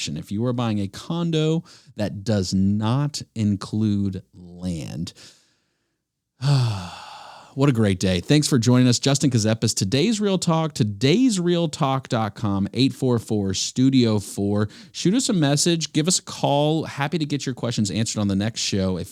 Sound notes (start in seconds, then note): 6.4 sighs